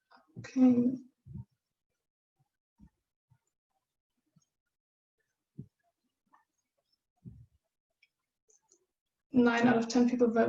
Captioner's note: silence